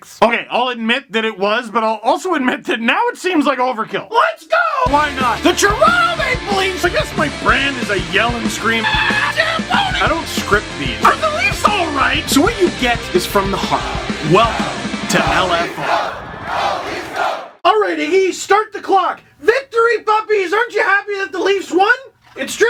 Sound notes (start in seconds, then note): 4.5 rock music plays throughout intro; 8.8 screams